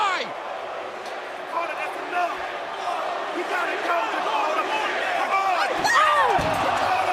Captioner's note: crowd cheering